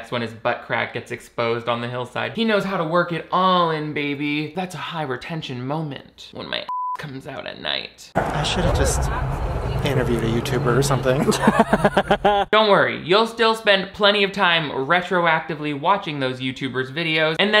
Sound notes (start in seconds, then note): 6.7 beep; 10.9 laughing